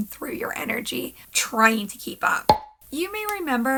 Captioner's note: pop